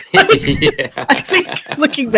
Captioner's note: laughter